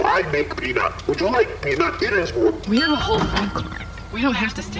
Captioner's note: ding